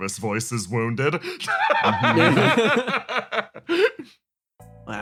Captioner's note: laughs